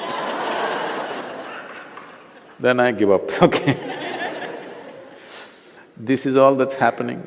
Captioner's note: laughter